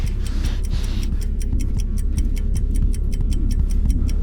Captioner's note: video rewinds; clock ticking